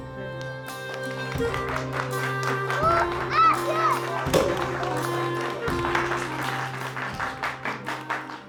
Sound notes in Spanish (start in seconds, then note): 4.0 Corcho es destapado, aplausos